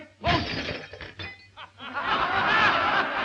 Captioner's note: poster clanging; all laughing